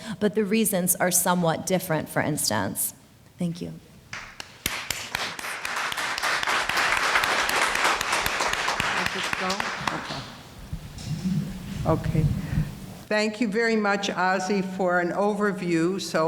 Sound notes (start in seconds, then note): 4.1 applauding